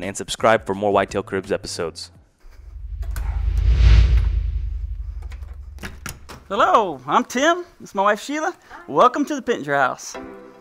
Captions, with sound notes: and subscribe for more Whitetail Cribs episodes. (air whooshing) Hello, I'm Tim. This is my wife, Sheila. - Hi. - Welcome to the Pittenger house.